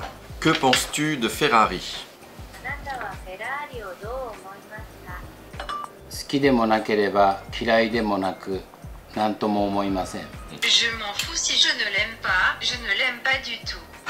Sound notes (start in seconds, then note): 6.3 Speaking Japanese